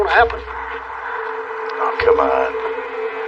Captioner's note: brerehing heavily